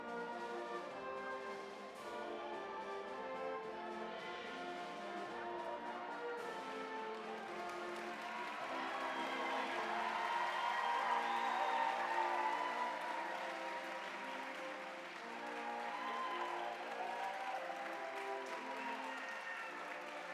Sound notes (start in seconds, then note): 0.2 elegant music; 9.6 audience cheering and applauding